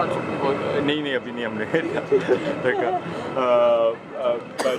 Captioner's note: in Urdu